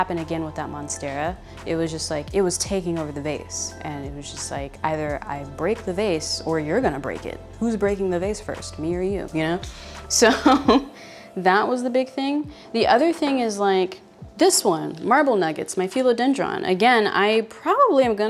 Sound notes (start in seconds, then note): 10.2 laughs